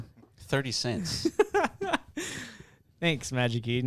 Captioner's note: laughing